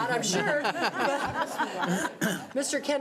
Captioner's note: laughing